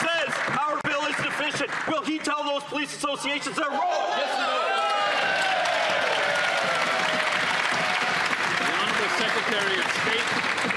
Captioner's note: some Applause